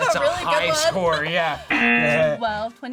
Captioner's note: buzzer